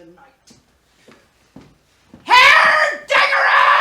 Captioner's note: shouting